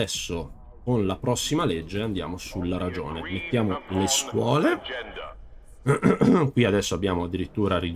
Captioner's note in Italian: schiarire la voce